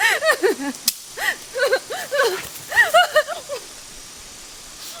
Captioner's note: Martha sobbing; twig snapping